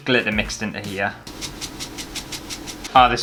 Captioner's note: glitter Shaking